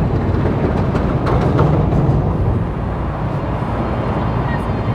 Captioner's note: bridge rattles